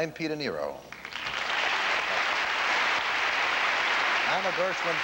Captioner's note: applause